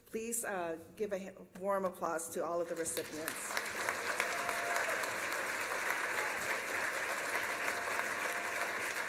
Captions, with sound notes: Please give a warm applause to all of the recipients. [CHEERS AND APPLAUSE]